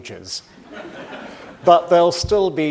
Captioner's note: audience laughing